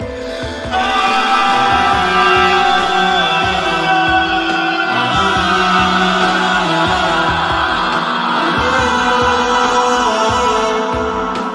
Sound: screaming

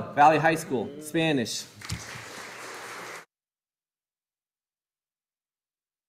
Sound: audience applauding

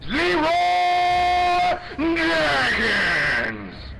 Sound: character yelling in a barbaric voice

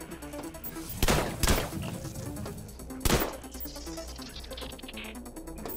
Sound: gunshots; intense music

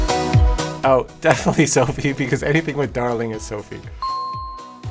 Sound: laugh

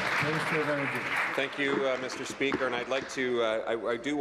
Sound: applause

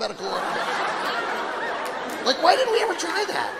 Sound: audience laughing

